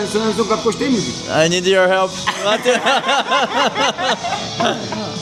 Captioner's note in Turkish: kahkaha